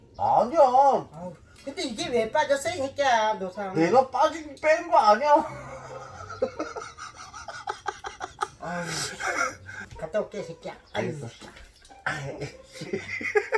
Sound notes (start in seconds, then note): 5.4 burst into laughter